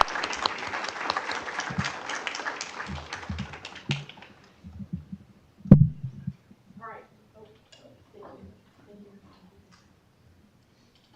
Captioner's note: applause